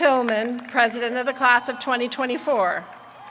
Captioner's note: applause